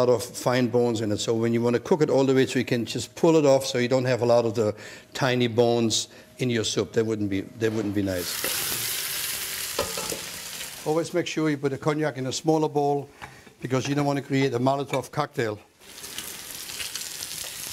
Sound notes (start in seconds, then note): 7.8 sizzling; 15.8 fire sound